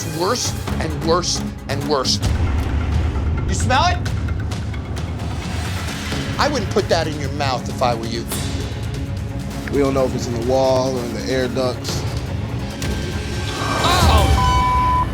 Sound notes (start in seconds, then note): 2.9 yelling; 4.3 tense music